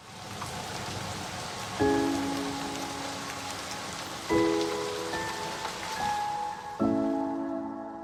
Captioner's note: rain falling